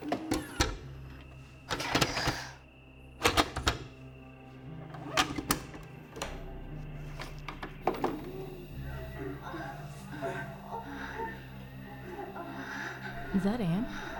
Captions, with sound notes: (VCR whirs) - Okay. (VCR clicks and whirs) (people moaning) - Is that Anne?